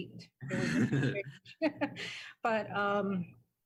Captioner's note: chuckle